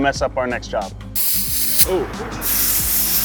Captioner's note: sprays